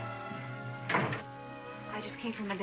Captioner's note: door shuts